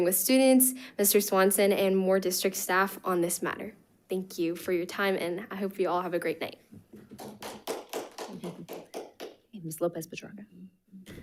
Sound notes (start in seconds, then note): 7.0 audience applauds